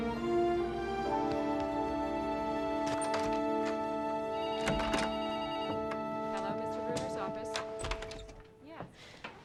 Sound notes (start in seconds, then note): 4.3 phone ringing; 7.3 door opening